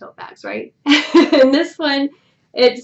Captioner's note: laughs